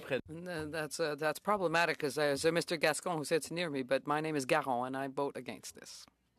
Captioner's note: speaking French